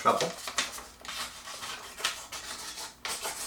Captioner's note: cutting noise